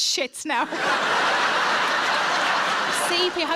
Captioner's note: audience laughing